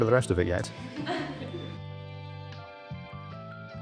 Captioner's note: students laughing; lively music continues